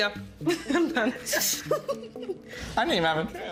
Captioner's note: giggling